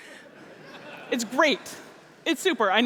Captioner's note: laughter